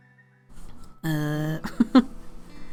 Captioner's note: laughs